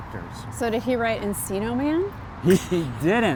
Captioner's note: chuckles